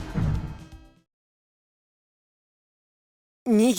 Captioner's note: silence